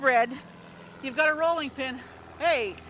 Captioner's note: airplane engine whirs